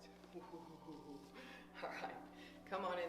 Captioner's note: chuckles